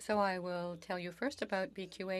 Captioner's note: speaking French